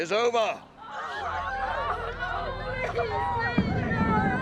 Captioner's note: crying out; drumming